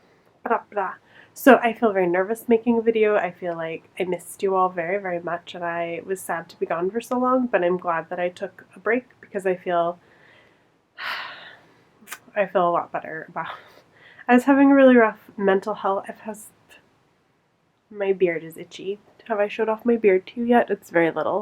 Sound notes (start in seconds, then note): 11.0 sighs